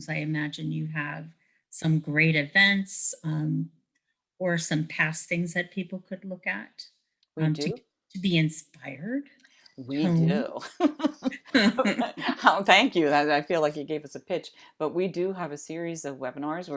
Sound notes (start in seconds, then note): 10.6 laughter